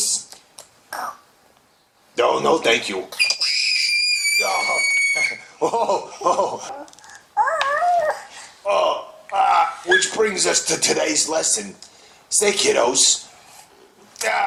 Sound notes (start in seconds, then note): 3.2 CHILD screams shrilly